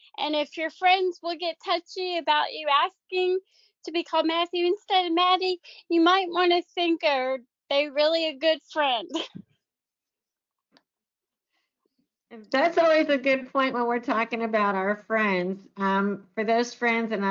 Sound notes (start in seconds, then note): 9.1 chuckles